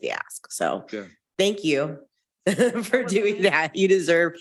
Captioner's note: chuckles